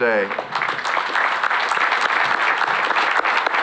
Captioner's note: applause